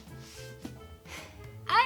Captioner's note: relieved sigh